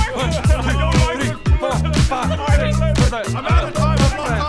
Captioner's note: whimpers; melodramatic cries